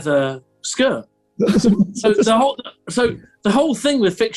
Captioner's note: giggling